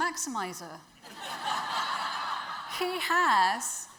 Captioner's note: audience laughs